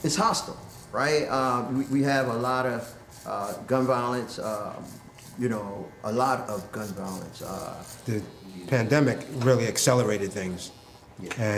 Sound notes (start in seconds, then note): none